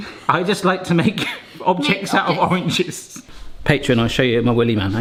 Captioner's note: chuckles